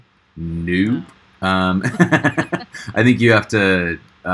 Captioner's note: chuckling